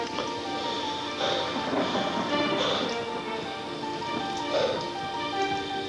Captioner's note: faint thunder